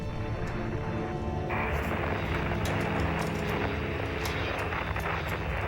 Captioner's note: static hisses